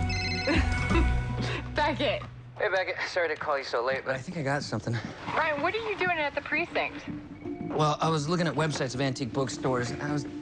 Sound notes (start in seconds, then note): 0.6 ring; 1.7 laughs